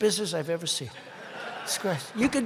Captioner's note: laughter